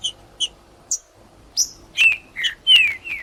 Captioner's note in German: trinca ferro cantando